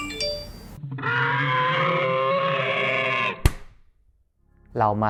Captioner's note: scream